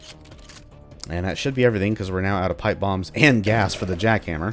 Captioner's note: chuckles